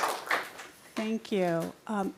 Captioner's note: applause